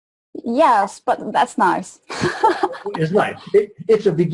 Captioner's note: laughs